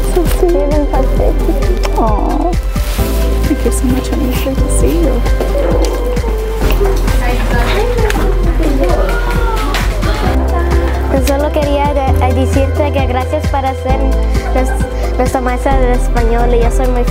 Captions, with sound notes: - That's so sweet. Aww. Thank you so much, honey. It's great to see you. (upbeat music) (students chatter) (student speaking Spanish)